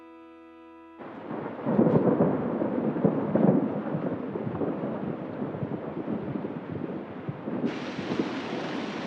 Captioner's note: thunder rumbling